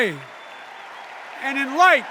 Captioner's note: enduring cheers and applause